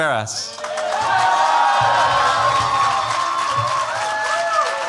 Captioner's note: cheers, applause